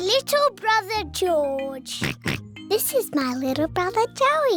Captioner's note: oinks